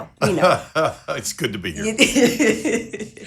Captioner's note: laughing